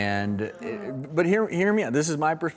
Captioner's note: audience groans